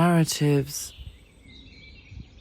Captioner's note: bird song